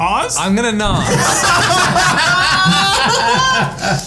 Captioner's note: all laughing